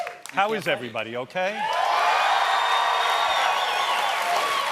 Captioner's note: cheers and applause